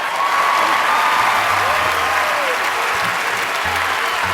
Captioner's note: cheering